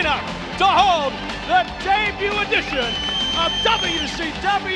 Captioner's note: audience whistles